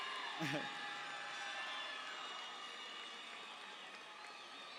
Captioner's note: guffaws